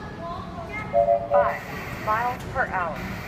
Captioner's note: high pitched tones, followed by static